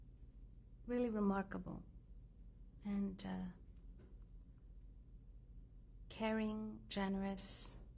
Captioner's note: pauses for 3 seconds